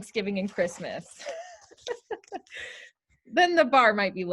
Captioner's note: laughter